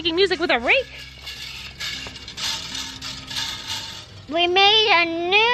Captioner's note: rhythmic banging